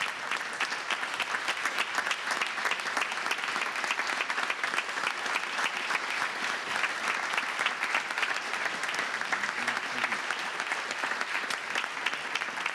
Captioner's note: applause